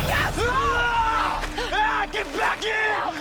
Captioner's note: pierre screams